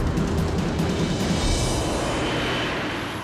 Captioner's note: airplane rumbling